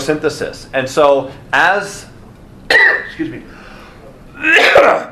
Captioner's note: coughs